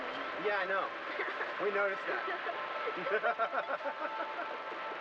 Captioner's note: both laughing